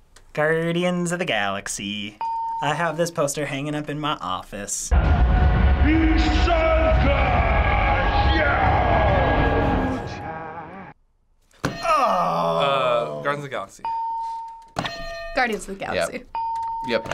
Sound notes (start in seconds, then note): 2.1 ding; 5.6 man yelling in foreign language; 11.4 hitting bell; 14.8 ding; 14.8 hitting bell